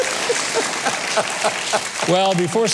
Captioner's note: laughs; crowd applauds